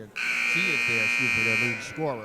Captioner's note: buzzer sounding